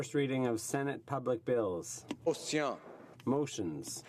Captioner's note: speaking French